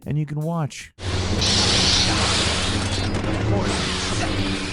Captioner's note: lasers firing